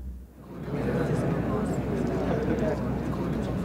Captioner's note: Students murmuring